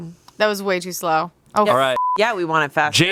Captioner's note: beep